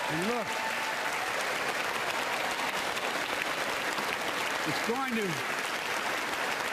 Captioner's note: applause